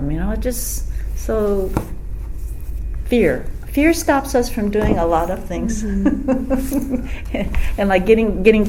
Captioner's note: laughs